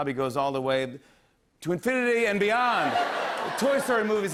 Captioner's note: laughter